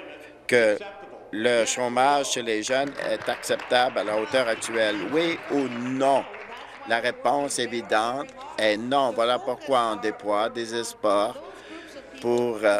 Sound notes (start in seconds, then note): 5.5 applause